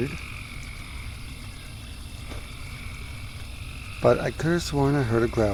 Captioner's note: crickets